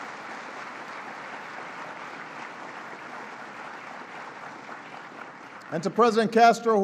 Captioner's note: applause